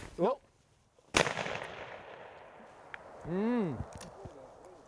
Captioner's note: gunshot cracks